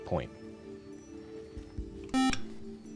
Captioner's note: beep